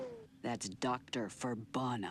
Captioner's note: whoosh